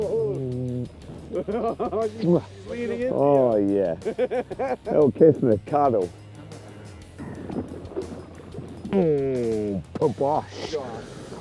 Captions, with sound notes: Morning, mate. [laughter] Oh yeah. Little kiss and a cuddle.